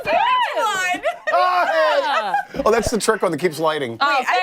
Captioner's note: laughter